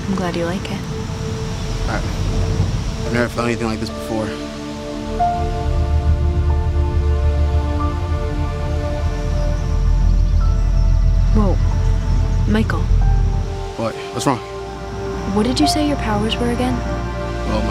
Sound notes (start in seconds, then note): 5.2 leaves rustling; 5.2 light music; 10.4 light dramatic music